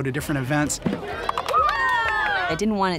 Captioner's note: people cheering